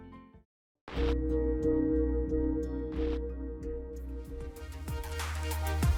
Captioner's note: chiming